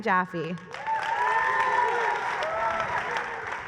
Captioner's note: applause